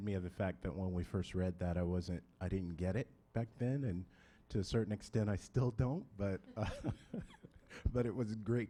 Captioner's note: laughing